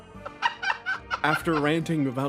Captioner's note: laugh